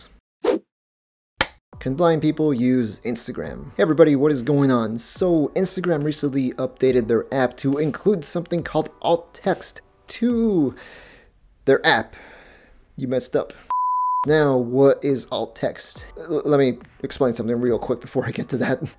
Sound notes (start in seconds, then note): 1.4 whoosh, film slate clapping sound; 12.2 sigh; 13.7 beep